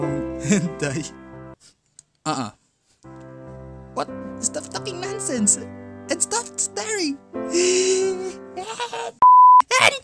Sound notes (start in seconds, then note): 7.5 inhales; 8.4 in a weird voice